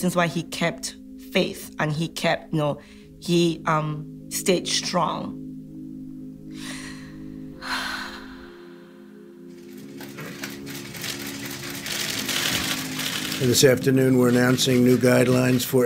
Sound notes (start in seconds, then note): 6.5 sighs; 10.6 camera shutters clicking